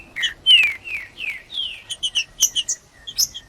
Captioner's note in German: trinca ferro cantando